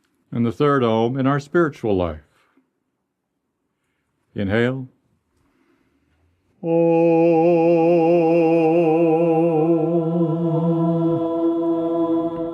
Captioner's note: chanting